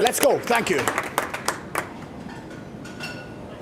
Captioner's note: applause